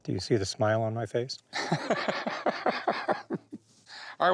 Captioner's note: laughs